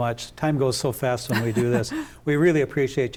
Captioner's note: laughs